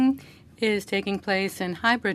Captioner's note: speaking French